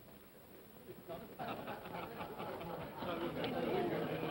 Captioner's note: men chuckle